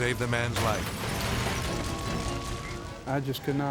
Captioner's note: cars crashing